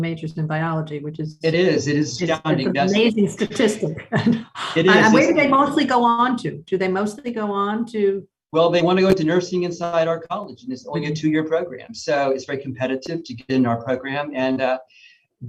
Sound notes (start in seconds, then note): 3.3 laughs